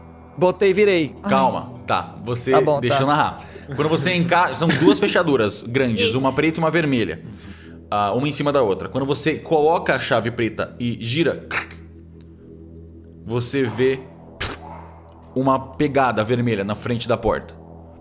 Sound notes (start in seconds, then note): 11.2 click